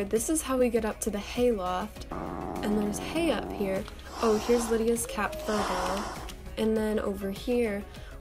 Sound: cat hissing in background

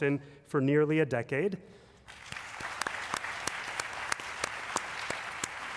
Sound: applause

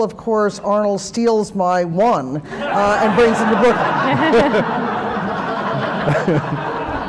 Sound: laughter

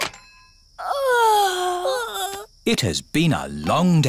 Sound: giggles; both yawn

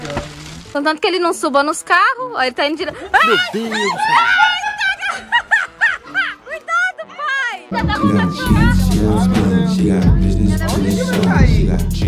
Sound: laughter

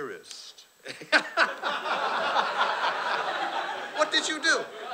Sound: laughter

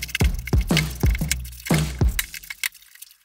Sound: energetic drumming; rag rubbing

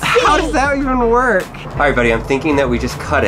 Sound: voiceover

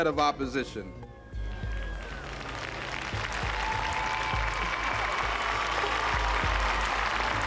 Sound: applause

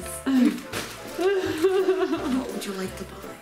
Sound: mother laughs

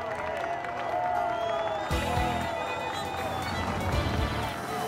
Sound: applause

